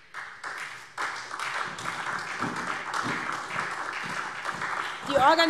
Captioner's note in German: Beifall SPD